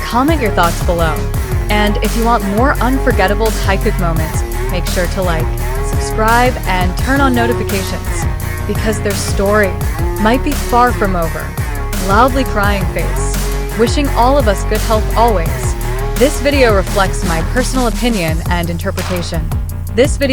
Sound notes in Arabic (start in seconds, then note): 12.1 وجه يبكي بشدة